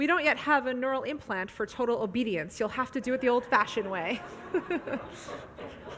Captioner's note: audience laughs; laughs